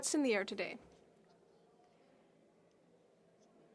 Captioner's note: speaking French